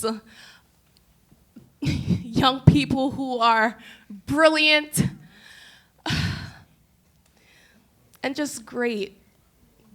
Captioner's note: breathing